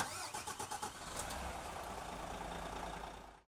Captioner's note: engine starting